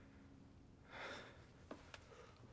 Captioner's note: none